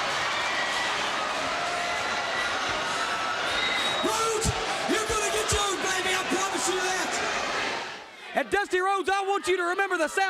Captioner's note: crowd chatter